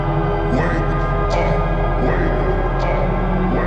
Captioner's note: voices repeating